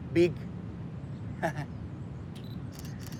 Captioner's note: laughs